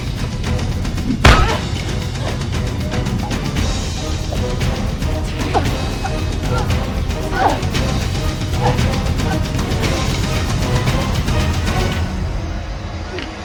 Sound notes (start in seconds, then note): 1.3 lid thudding; 6.2 woman gasping